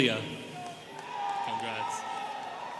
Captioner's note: students cheering